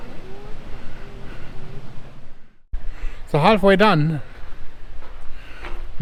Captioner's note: birds chirp